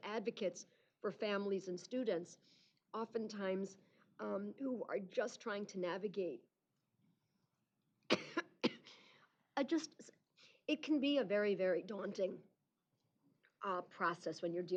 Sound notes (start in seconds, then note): 8.1 coughing